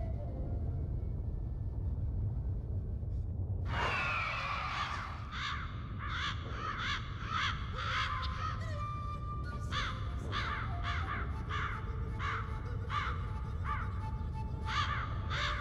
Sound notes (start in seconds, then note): 3.7 screeching noise; 3.9 crows cawing